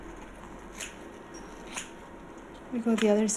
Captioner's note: scissors snipping